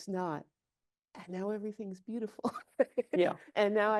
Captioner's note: chuckles